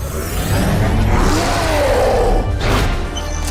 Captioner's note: roar